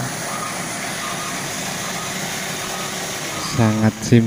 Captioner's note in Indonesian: suara mesin